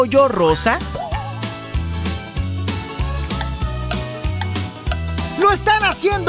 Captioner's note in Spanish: Sonido de reloj